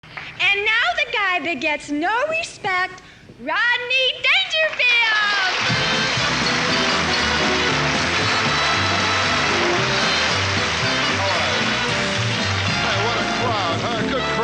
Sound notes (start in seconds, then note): 4.7 audience applauds; 5.6 upbeat instrumental music